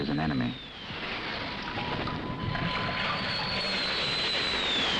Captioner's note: planes screeching